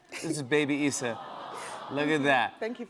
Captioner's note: audience "Awws"